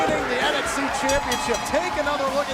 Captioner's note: bell ringing